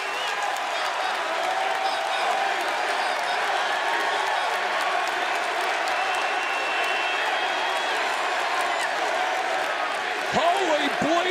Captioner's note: crowd cheering